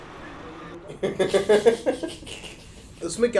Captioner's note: laughing